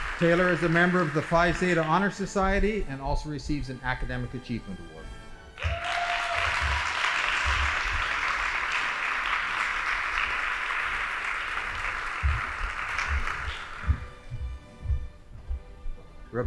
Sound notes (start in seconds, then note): 5.5 audience applauding; 13.9 band playing